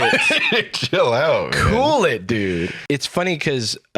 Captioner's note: laughing